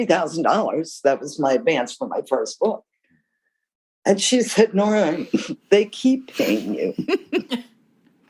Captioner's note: laughter